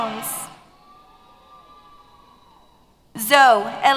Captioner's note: cheers